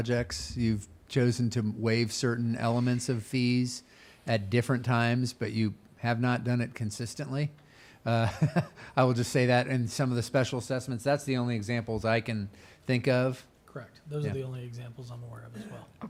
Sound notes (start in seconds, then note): 8.3 laughs